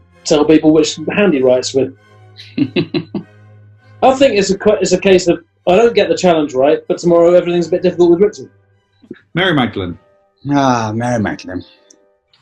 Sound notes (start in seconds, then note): 2.4 chuckling